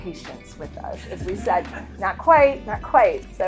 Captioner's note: attendees laughing